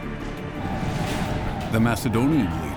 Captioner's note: deep rumble